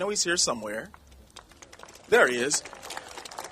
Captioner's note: applauding